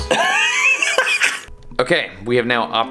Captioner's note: laughing